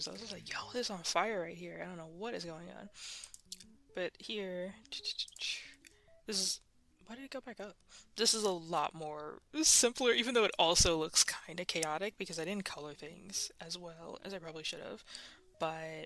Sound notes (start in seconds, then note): 3.0 breathing and Mouse Clicking; 5.0 mouth Clicking Sounds; 6.7 whispering